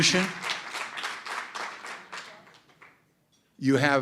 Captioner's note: applause